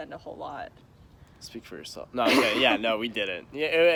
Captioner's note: laughs